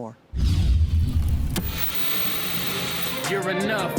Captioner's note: screen whooshing; TV static